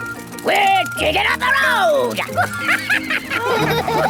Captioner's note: chuckles